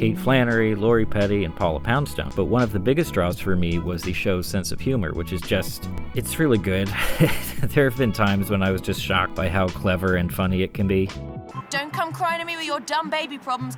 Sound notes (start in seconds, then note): 6.9 laughs